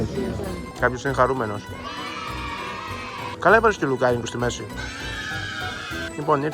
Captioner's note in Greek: ζητωκραυγές